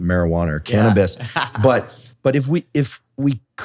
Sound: laughs

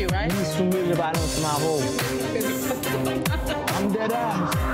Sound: speaking in foreign language; laughs

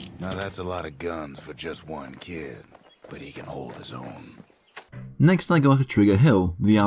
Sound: in-game audio

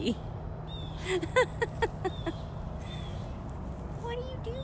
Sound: laughter

